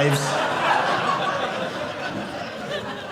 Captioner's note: audience laughing